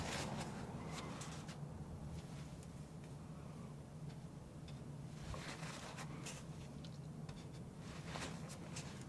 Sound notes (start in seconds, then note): 1.3 scratching